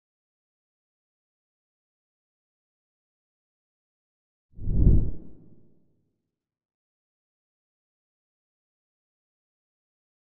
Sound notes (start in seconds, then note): 4.6 graphic whooshes